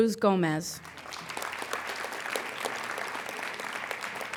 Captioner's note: applauding